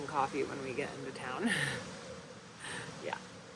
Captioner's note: chuckles